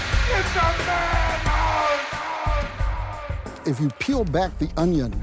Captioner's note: echoing